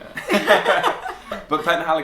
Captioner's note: laughter